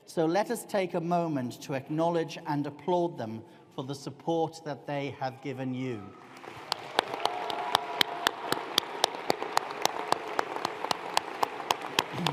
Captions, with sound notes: So let us take a moment to acknowledge and applaud them for the support that they have given you. (ALL APPLAUDING)